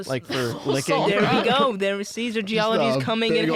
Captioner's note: laughing